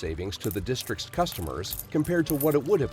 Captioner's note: coins clinking